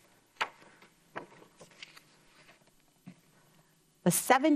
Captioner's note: paper rustles